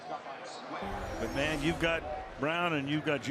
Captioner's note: pa announcement